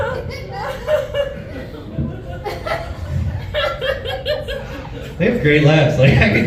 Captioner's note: laughs